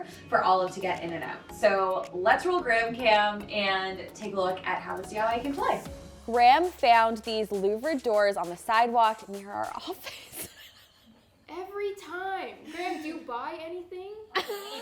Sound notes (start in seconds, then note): 9.8 laughing; 14.3 laughing